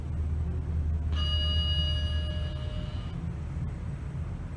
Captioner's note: ding